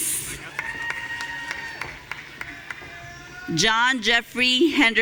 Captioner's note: audience cheering